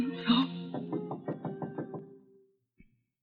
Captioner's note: knocking